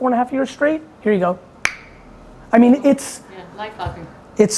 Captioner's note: clicks tongue